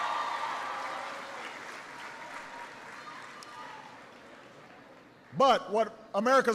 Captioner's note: applause